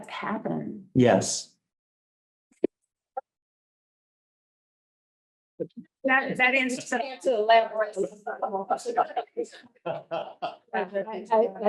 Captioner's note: laughter